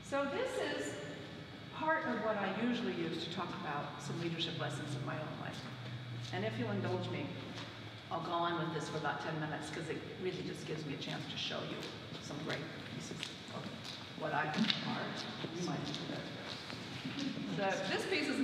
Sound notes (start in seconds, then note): none